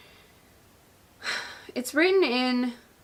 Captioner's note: sighs